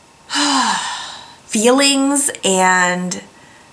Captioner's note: big sigh